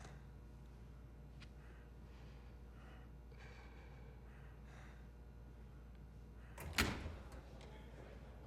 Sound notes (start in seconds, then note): 6.6 door opens in distance